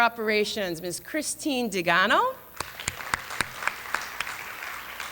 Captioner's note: applause